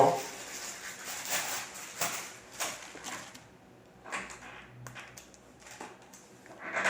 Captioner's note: stuttering like I'm Porky Pig; plastic bag noises